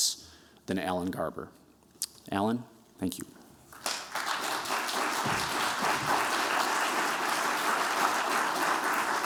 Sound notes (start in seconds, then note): 3.7 applause